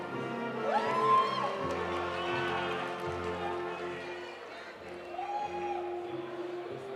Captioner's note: audience cheering; audience applauding